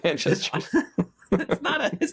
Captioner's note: laughing